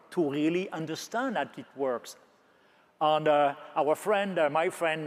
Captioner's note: none